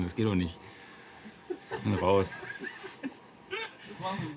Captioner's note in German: Gekicher